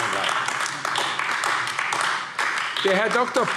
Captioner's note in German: Beifall AfD